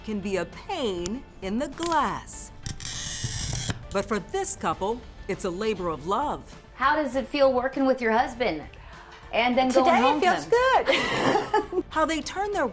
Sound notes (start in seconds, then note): 2.7 glass screeching; 10.6 laughs